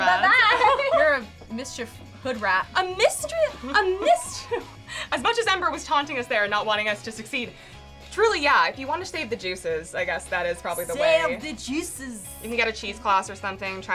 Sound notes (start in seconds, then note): 0.1 laughing; 3.3 laughs